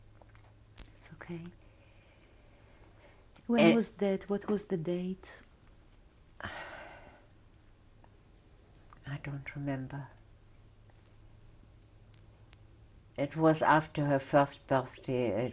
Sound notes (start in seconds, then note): 6.4 sighs; 9.8 pauses for 3 seconds